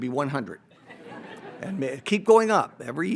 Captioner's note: audience laughs